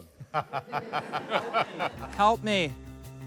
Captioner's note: laughter